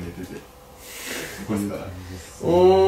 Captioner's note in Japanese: 鼻で笑う